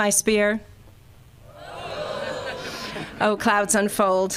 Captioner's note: crowd